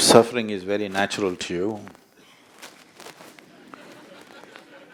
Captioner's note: few laugh